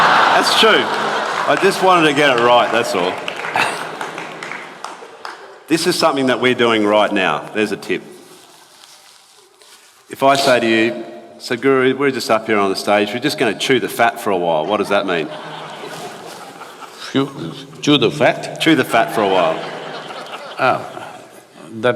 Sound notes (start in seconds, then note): 18.9 laughter